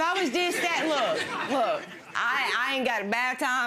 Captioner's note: audience laughing